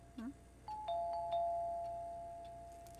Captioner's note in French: sonnette